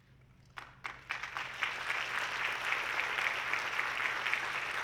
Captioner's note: audience clapping